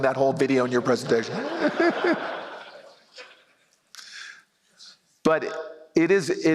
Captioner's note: laughter